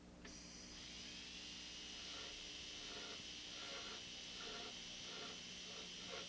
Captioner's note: drilling sound